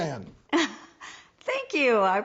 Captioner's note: chuckles